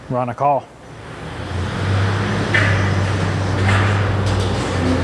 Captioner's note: engine revving